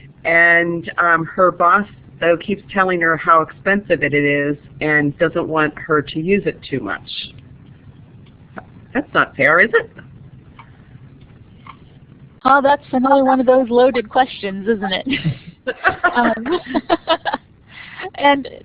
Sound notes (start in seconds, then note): 14.9 laughs; 15.0 chuckles